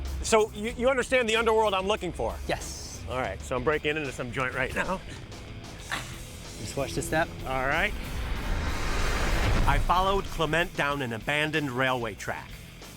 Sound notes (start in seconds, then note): 5.1 huffs air